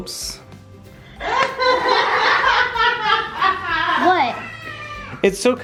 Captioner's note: and kids laugh loudly